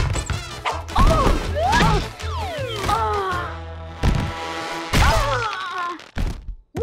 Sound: groaning

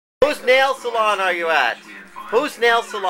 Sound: background noise of the tv

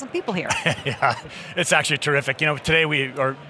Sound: laughing

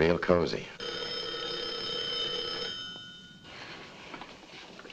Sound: telephone rings

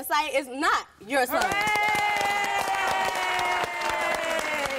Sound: applause

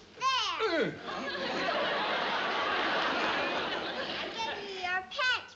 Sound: uncle tonoose grunts

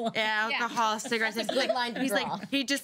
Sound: laughing

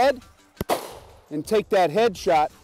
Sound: gunshot

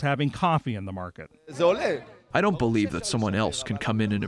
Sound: through translator

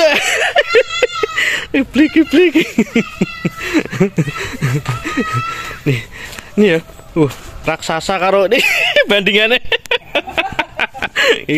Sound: laughs

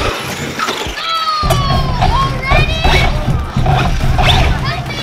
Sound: groans

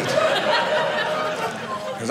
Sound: audience laughing

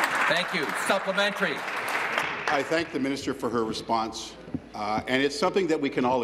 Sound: applause

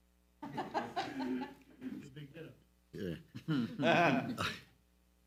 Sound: laughs loudly

